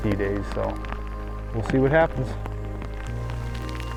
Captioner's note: none